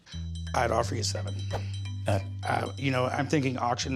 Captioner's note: stammers